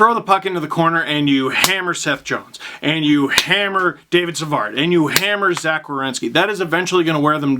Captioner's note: hammer